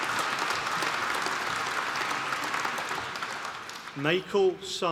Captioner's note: applause